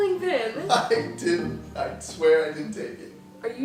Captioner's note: laughing